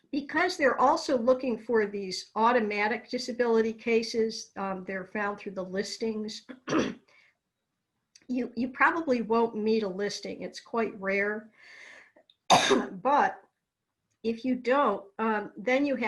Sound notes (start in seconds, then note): 6.6 clears throat